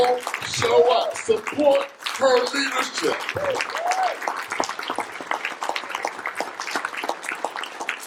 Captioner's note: applause